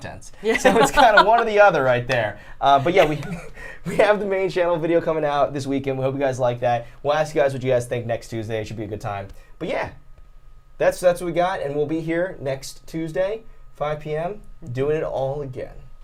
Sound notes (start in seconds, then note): 0.4 Safiya laughing; 2.6 both laughing